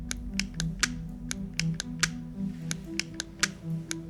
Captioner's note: suspenseful music; pen clicking